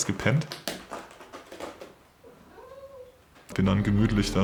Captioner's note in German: Kratzgeräusche von der Katze